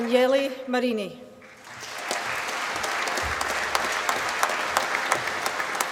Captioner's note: applause